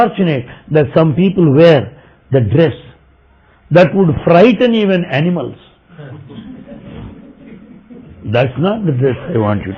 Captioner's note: laughter